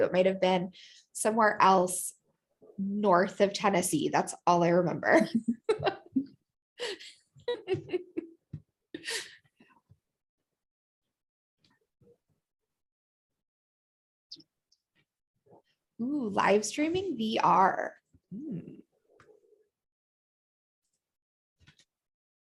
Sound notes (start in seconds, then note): 5.2 laughter